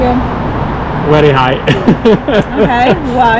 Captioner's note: laughs